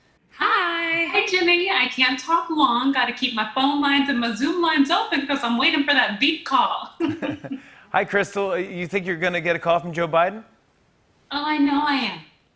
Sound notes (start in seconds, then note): 7.0 both chuckle